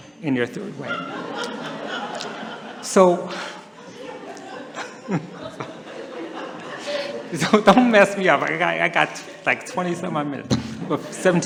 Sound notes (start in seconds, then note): 2.1 laughter; 4.0 he laughs